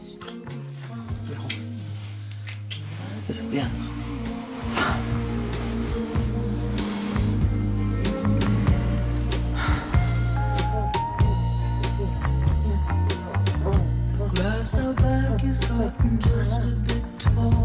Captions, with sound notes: Wait, hold on: this is the end. (sounds of moaning and pleasure as music plays) The grass out back has gotten just a bit taller